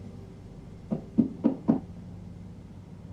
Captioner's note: knock Knock Knock